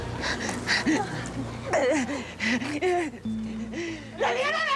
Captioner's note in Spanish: sollozos